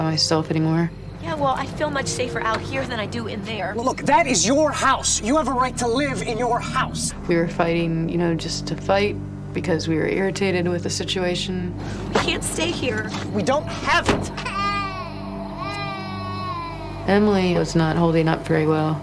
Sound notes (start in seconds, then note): 14.3 Emily crying